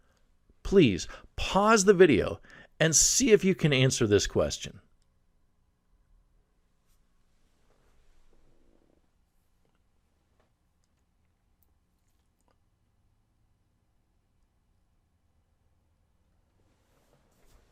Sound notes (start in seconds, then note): 5.2 pause